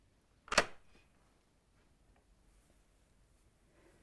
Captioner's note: latch snaps